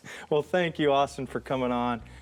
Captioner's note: laughs